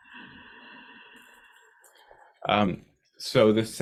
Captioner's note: breathing